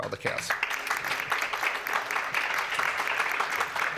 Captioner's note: applause